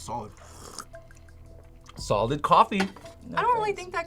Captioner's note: slurps